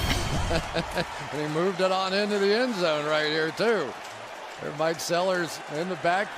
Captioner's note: laughs